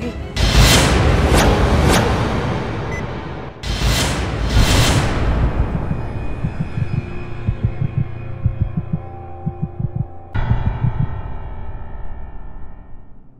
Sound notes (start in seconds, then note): 0.2 shocking music; 3.6 dramatic music; 5.9 heartbeat sound